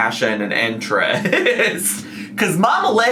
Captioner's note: laughs